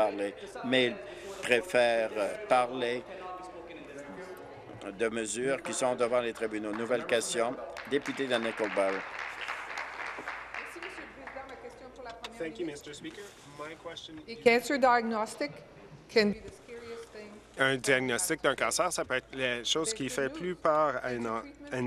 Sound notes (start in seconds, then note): 10.7 applause; 13.7 speaking in French